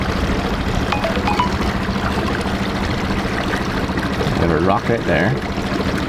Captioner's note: electronic beep